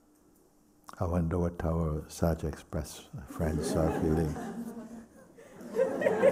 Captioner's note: laughter